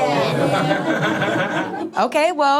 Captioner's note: laughing; crowd